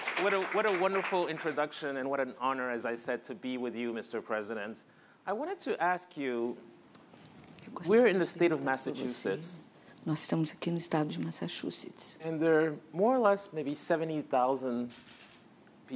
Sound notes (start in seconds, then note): 10.6 speaking portuguese